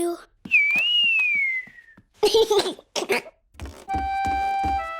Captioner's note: whistling and giggling